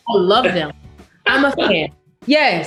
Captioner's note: laughs